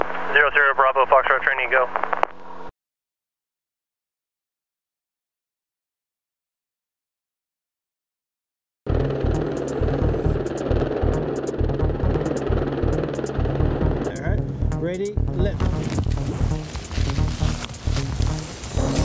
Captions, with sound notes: Zero zero bravo Fox Trot trainee, go. [helicopter whirring] Alright? Ready, lift.